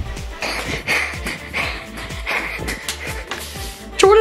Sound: panting

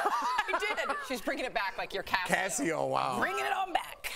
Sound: laughter

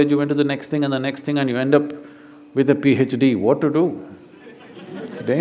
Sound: laughter

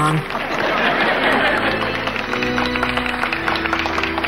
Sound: audience laughing

